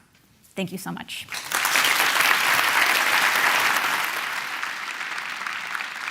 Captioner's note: applause